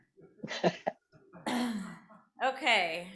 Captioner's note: laughter